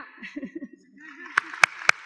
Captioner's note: applause